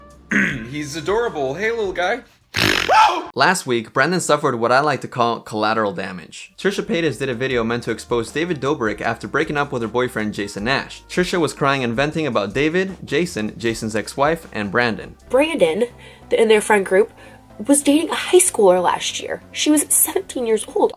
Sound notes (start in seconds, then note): 2.5 screeches